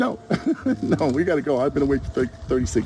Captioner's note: laughs